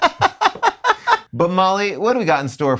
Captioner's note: laughing